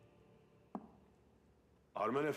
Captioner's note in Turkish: Baston vurma sesi